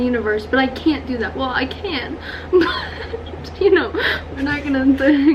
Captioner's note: laughs